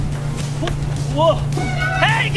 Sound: motor boat zooming; screaming

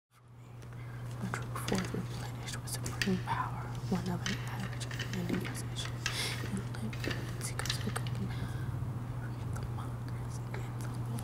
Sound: quietly reading lines to herself

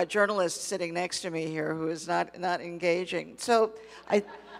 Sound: laughs

